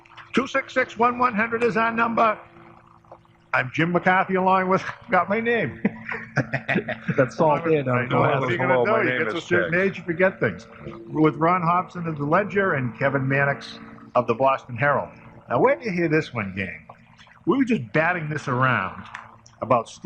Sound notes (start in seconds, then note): 4.6 chuckles; 5.7 laughter